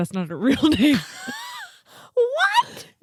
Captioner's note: laughing